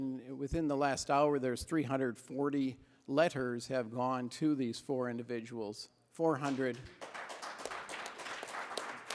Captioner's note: applause